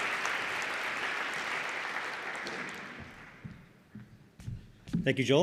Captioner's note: applause